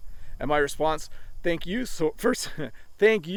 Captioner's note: chuckles